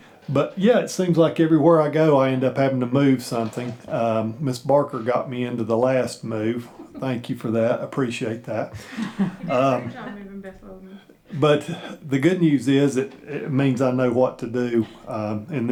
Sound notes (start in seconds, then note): 8.6 laughing